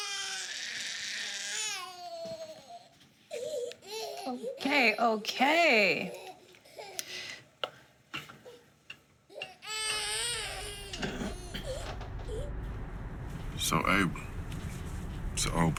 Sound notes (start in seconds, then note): 9.3 baby Crying